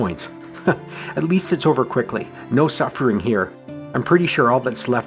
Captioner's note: chuckles